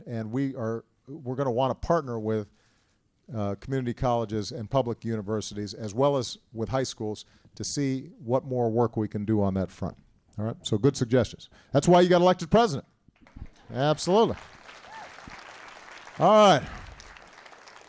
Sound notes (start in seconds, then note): 13.2 applause